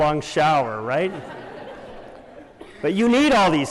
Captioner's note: laughter